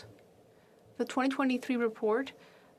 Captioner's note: speaking French